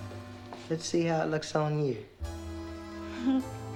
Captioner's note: giggles